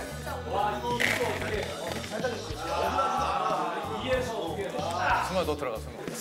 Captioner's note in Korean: 와르르